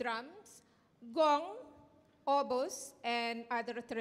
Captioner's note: speaking in Indonesian